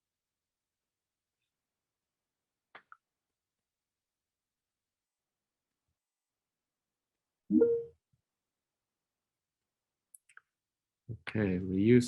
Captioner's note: brief silence